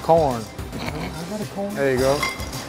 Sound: laughs

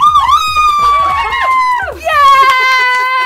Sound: cheers; screams; laughs

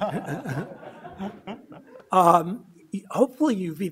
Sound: laughs

